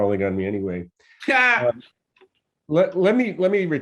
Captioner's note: laughs